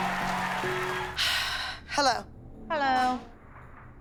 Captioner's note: cheering; sighs